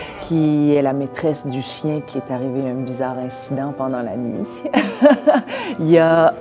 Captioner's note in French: rires